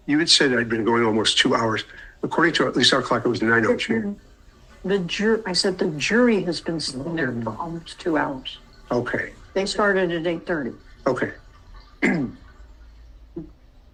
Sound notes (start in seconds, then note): 12.0 cough